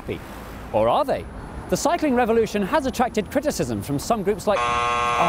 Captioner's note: game show buzzer